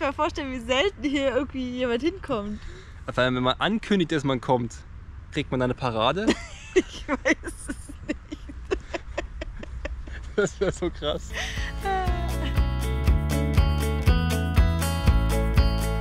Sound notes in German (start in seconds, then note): 10.8 lachen